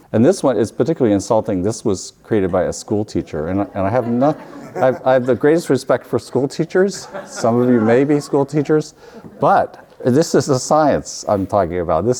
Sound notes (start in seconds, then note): 3.4 audience laughs